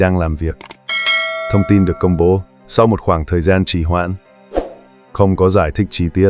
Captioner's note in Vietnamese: chuông